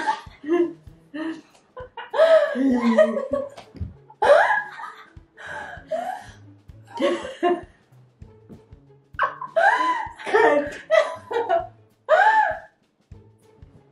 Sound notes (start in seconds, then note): 2.1 wheezing